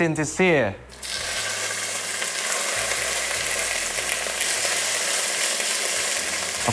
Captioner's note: sizzling sound